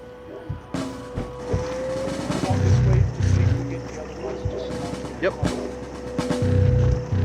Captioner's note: vehicle doors closing and opening